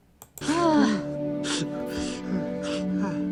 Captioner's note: Joy groans